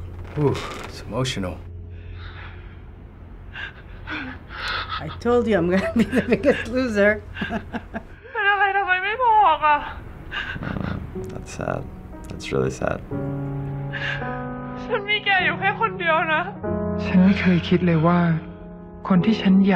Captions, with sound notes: - Woo. It's emotional. - I told you I'm gonna be the biggest loser. (chuckles) - Aw, that's sad. That's really sad.